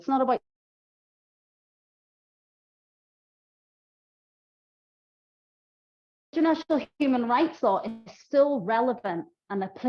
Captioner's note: lost audio